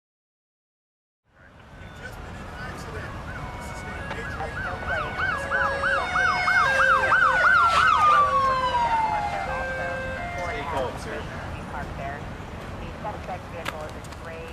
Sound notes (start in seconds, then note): 3.1 sirens; 4.1 radio traffic; 5.1 sirens